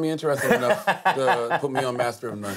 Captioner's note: laughs